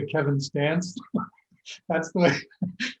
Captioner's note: laughing